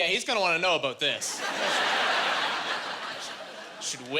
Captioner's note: laughing